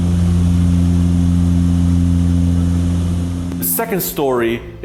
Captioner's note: aircraft engine humming